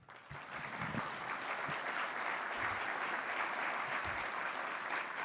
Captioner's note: applause